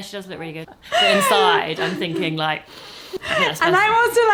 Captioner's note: snorts